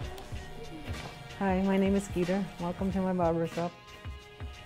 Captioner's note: electric razor buzzes